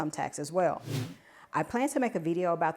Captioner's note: screen whooshing